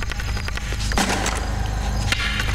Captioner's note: Pounding